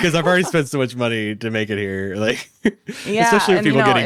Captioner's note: laughs